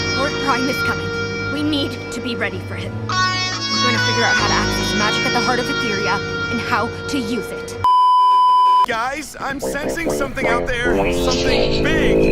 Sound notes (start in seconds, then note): 7.8 beeeeeep; 9.6 meme music intensifies